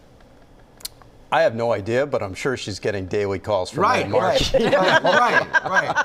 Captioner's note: laughter